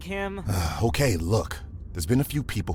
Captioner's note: sighs